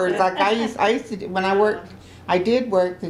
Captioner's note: laughter